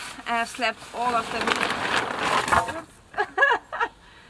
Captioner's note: sheeting unfurls; wood falling down noise